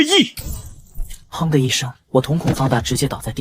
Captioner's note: bang!